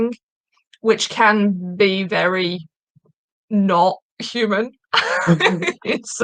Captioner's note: laughing